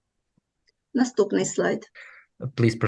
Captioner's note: foreign Language